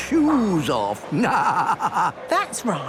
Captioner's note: laughing